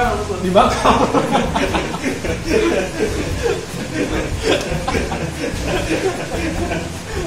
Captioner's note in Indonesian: ketawa